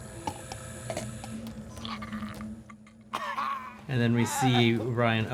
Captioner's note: Ryland gags